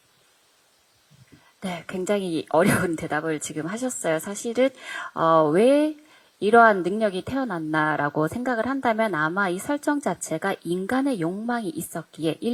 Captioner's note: translating in Korean